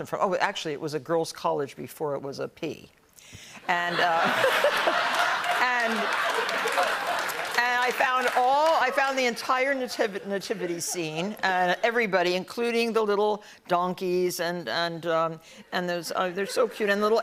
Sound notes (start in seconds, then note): 3.8 laughter